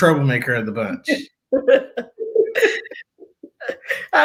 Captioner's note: laughter